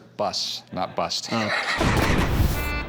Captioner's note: laughs